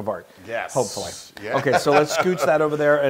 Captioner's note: laugh